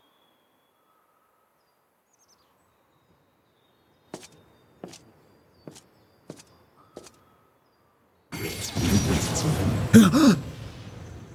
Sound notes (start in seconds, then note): 4.9 loud explosion; 9.9 gasps